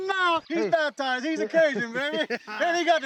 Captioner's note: laughing